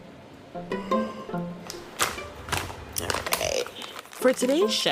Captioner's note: music, Sound of getting bags of coffee